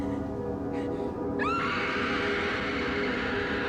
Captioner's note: screams